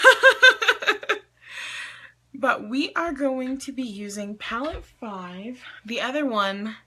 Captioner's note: laughs